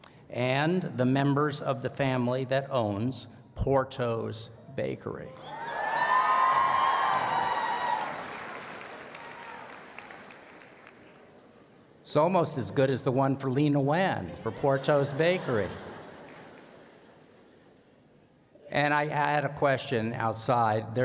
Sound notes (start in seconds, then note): 5.4 cheers and Applause; 14.4 laughter